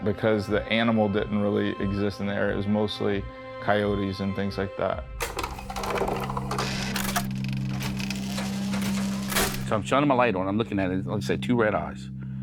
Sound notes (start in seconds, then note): 5.2 film reel clacking; 5.4 pensive music